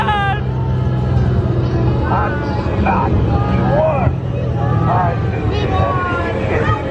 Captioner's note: engine humming